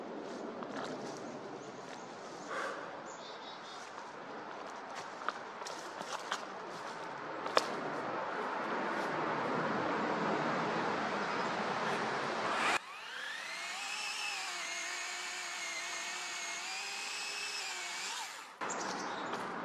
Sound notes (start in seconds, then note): 3.7 footstep in leaves, CF-18s going to or from the nearby army base; 12.4 chainsaw running; 18.7 footsteps in leaves, CF-18s getting farther